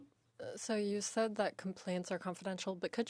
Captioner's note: speaking in French